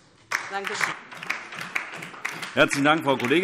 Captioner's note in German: Beifall DIE LINKE